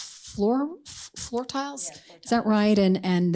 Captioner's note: speaking softly